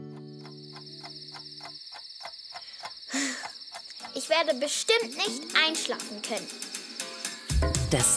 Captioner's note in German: seufzend